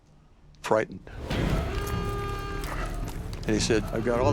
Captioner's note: warning siren blaring